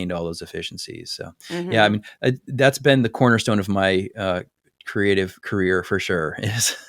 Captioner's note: laugh